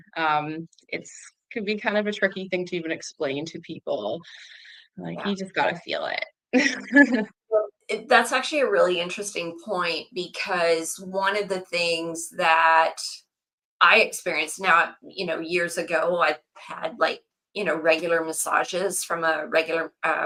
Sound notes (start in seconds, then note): 6.6 laughs